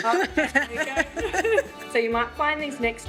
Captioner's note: laughs